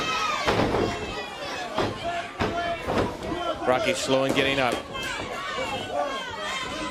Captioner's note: crowd cheering